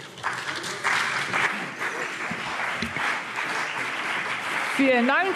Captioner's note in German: Beifall CDU und BÜNDNIS 90/DIE GRÜNEN